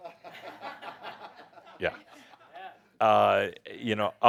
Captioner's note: a few chuckles